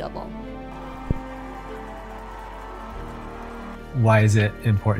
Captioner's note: cheering